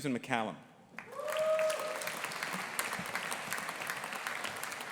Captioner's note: audience applauding